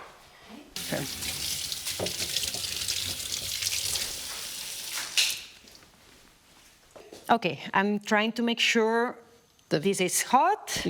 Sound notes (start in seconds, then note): 0.7 water running